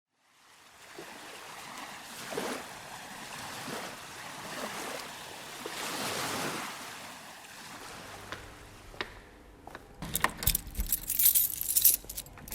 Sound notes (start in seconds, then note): 0.1 sounds of waves; 10.0 footsteps approaching and keys jingling